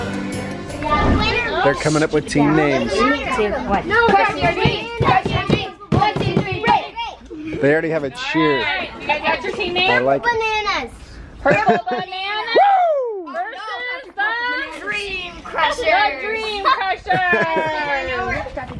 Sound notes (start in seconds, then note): 0.5 child eating; 17.1 male instructor laughs; 18.6 children talking